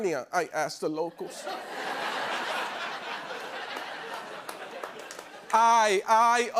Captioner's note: laughter